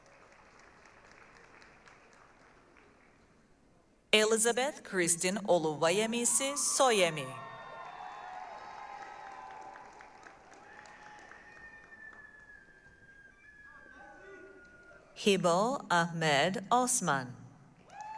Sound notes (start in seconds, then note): 0.0 applause; 7.2 applause, cheering